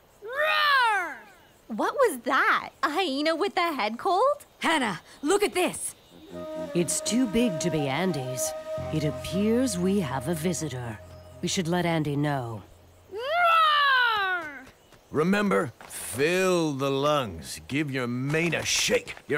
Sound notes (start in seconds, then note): none